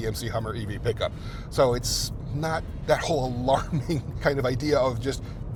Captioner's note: laughs